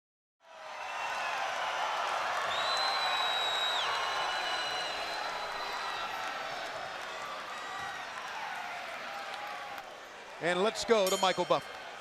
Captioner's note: crowd cheering